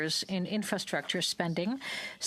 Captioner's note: speaking french